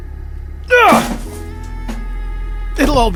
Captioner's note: screams out some frustration